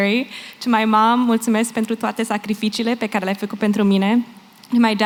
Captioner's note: non-english